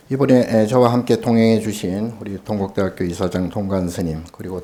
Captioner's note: speaking Korean